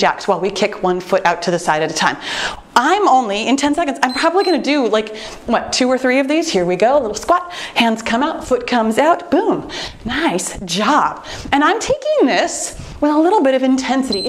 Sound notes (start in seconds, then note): 4.0 timer beeps